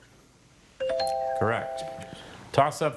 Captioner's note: scoreboard dings